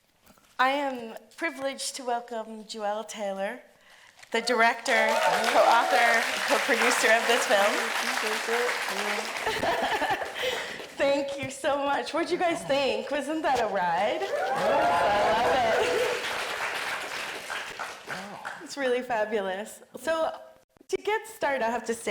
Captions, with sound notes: I am privileged to welcome Juel Taylor, the director, (audience applauding) co-author, co-producer of this film. - I really appreciate that, (audience applauding) you know. - (chuckles) Thank you so much, what'd you guys think? Wasn't that a ride? (audience cheering and applauding) I love it. (audience applauding) It's really fabulous. So, to get started, I have to say,